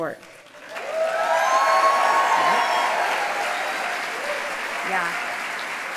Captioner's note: applause